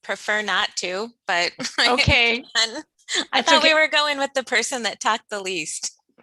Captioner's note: laughs